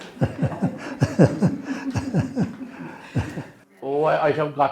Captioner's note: laughter